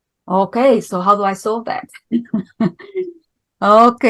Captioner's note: laughing